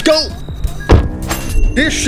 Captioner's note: engine revving; beep; door slamming